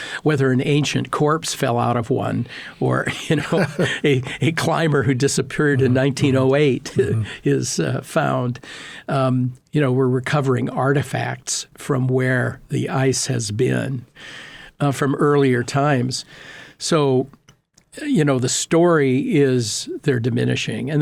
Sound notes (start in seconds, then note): 3.0 laughing; 7.2 laughing